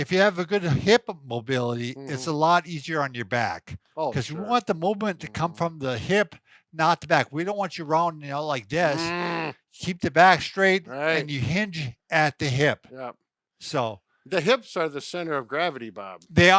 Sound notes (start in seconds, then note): 8.9 grunts disapprovingly